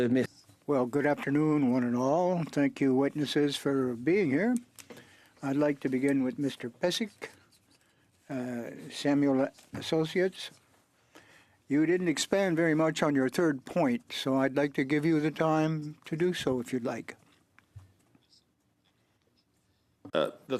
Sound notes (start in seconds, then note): 3.1 speaking French